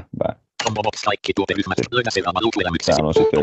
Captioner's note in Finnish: ruudunlukijan puhetta